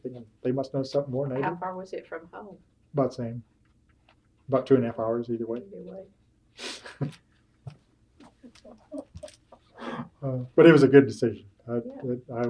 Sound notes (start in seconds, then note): 8.2 laughs